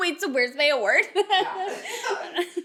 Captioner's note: laughs